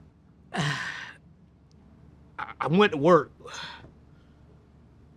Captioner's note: silence; sighs; silence